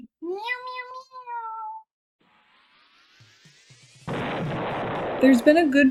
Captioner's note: meowing